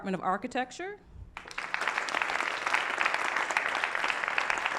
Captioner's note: applause